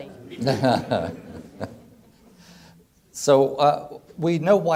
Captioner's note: laughing